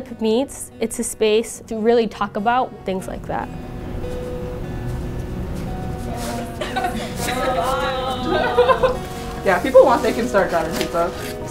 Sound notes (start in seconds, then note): 6.4 laugh